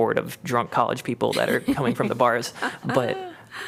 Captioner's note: laughter